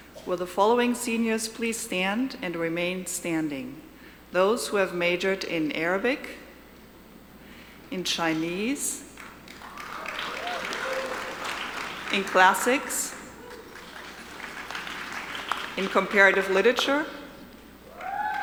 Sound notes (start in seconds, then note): 9.2 audience applauding